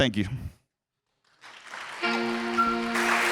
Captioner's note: audience applauding; bright music